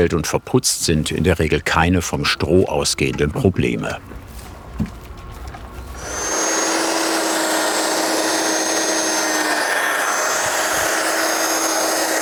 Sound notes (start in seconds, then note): 5.9 loud whirring